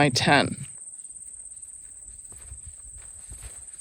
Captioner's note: bugs chirping in the grass